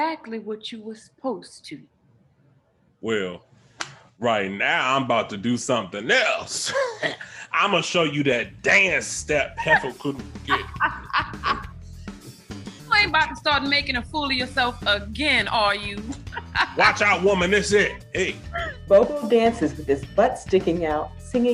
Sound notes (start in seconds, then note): 10.4 laughs; 11.1 upbeat music